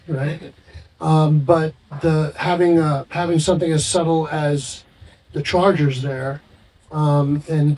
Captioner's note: chuckles